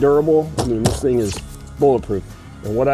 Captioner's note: banging